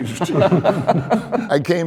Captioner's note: men laughing